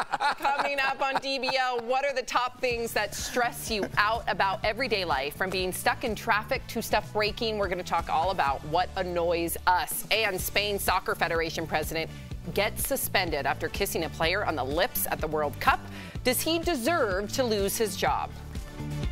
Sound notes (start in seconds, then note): 3.6 laughter